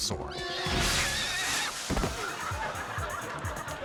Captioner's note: rider screaming; suspenseful music; audience laughing